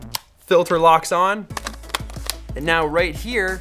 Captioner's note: click sound